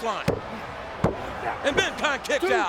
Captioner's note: referee tapping